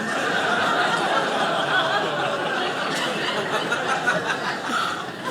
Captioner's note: audience laughing